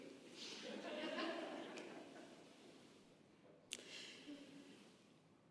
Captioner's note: congregation laughing